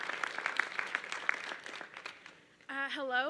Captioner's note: applause